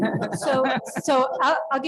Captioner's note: panelists laughing